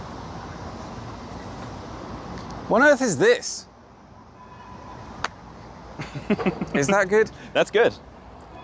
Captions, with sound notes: What on Earth is this? (clap) - Is that good? - That's good!